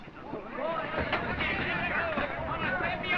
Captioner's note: all exclaiming excitedly